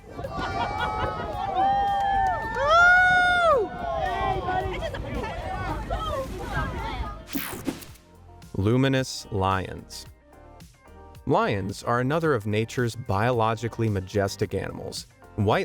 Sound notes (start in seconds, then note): 0.0 crowd cheering; 0.1 crowd laughing; 4.1 crowd chattering